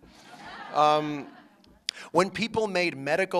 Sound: laughter

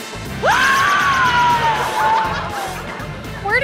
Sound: screaming

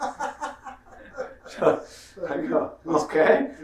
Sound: laughing

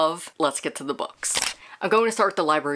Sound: camera shutter

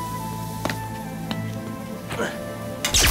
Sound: footsteps thud; grunts

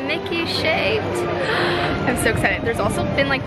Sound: gasps

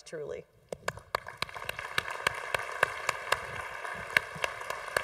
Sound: congregation applauding

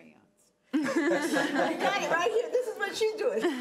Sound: laughing

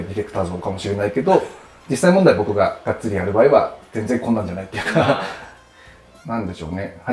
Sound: laughing

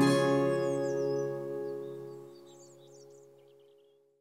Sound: birds chirping

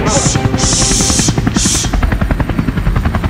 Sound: helicopter hovering above

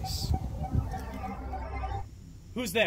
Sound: humming sound

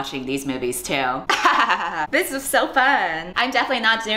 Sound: laughs

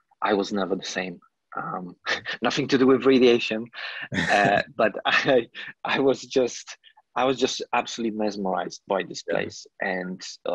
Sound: laugh

